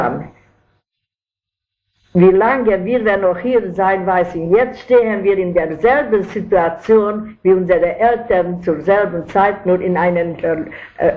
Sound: in German

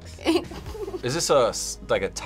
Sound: chuckling

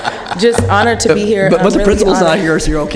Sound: laughter

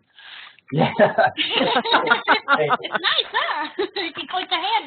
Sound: laughing

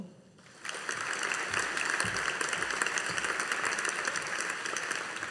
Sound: audience applauding

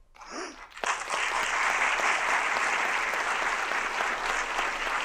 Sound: audience applauding

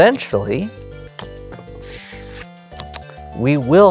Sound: cards slapping and sliding

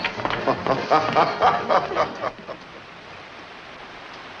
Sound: Frenchy chuckles

